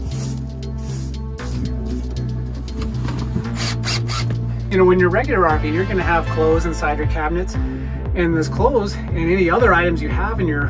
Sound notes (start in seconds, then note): 0.0 broom sweeping; 3.4 drill buzzing